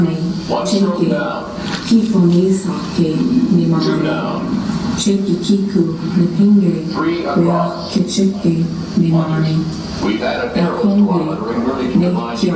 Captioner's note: female voice speaking in Indigenous Myaamia language